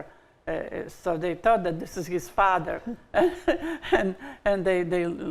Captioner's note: laughs